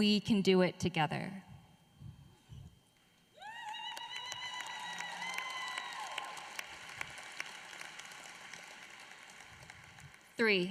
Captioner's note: applause